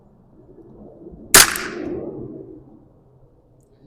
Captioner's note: gunshot